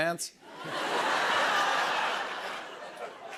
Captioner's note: laughter